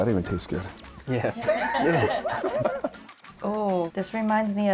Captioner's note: laughter